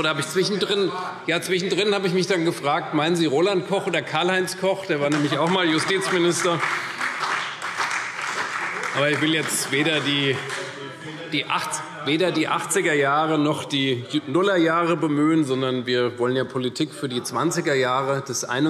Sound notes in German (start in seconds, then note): 5.0 Vereinzelter Beifall CDU